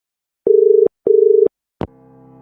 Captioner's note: dial tone